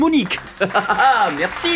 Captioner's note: applause